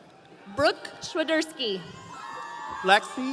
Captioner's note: audience cheering